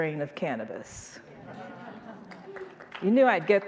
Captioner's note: audience laughing; audience applauding